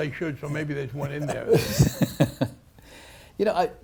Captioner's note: laughs